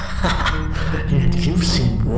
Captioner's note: laughter